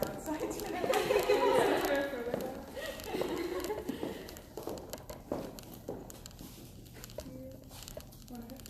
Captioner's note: laughter, indistinct conversation